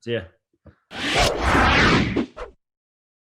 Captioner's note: air swoosh